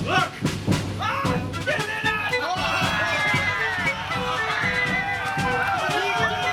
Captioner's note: cheering